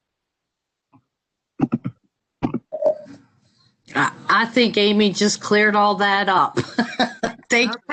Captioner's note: laughter